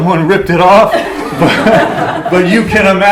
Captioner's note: laughter